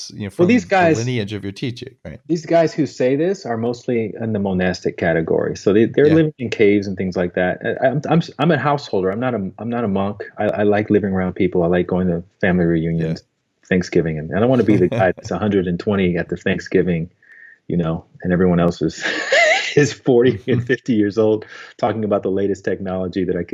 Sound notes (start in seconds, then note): 20.2 laughs